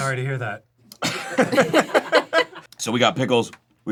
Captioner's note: and crew laugh